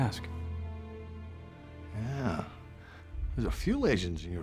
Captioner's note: scottish accent